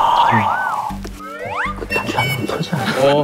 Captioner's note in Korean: 스윽